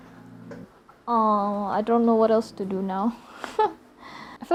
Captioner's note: chuckle